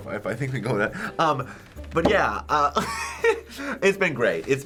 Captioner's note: laughing